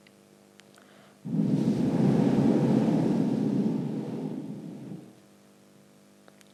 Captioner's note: shree mataji blows into the microphone